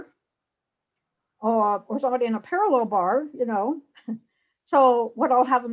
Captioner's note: laughs